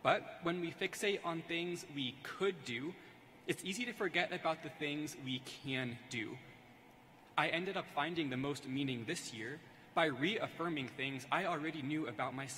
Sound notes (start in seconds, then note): none